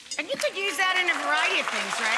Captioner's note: audience applauding